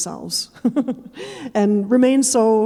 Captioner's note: chuckling